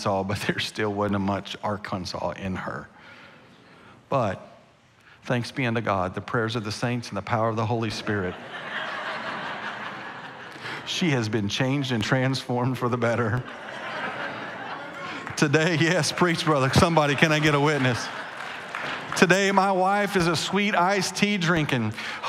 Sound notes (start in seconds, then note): 8.0 congregation laughing; 13.1 congregation laughing; 18.2 congregation cheering